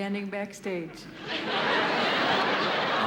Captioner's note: laughter